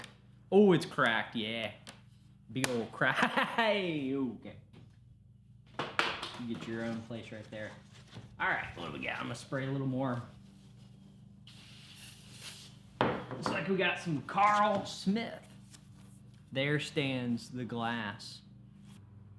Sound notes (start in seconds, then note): 3.1 laughs